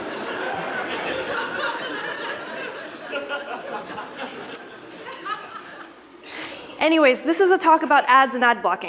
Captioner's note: laughter